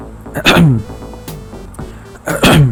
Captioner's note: cough